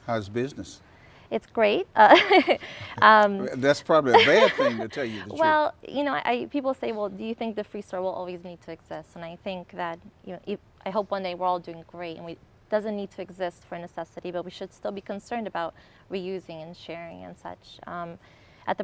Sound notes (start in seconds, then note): 2.1 laughs